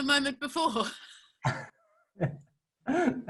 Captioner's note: laughing